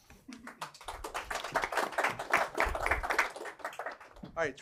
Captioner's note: applause